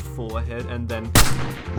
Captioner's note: bang